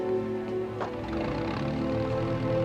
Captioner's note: engine starts